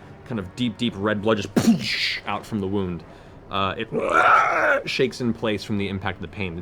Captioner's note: screeches